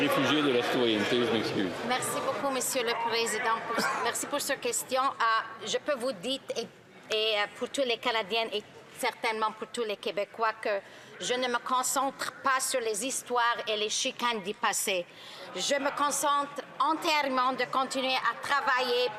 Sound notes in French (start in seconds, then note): 3.7 rires